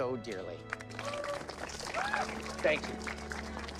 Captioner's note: audience cheering